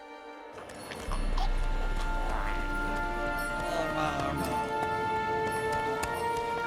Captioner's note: babbling